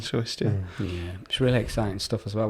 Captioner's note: murmurs of agreement